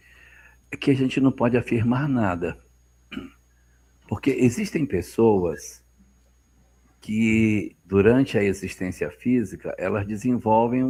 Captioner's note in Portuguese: limpando a garganta